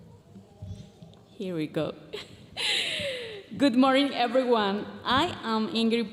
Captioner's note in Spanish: hablando en inglés